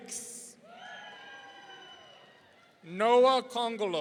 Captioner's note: audience cheering